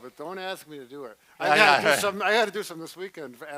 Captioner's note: laughs